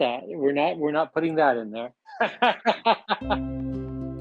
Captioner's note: laughter